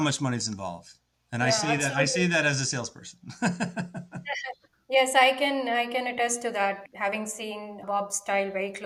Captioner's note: laughs